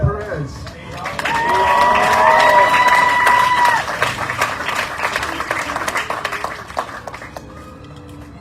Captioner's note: audience cheering, applauding